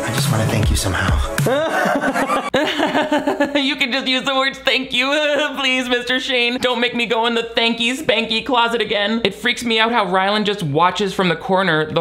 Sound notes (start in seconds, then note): 1.3 Shane and Chris laugh; 1.3 laughs